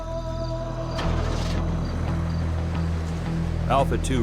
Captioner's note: Humvee engine starts; voiceover